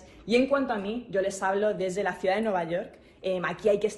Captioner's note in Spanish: HABLA EN INGLéS